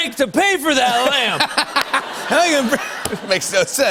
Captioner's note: laughter